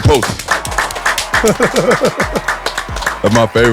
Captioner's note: Maverick laughs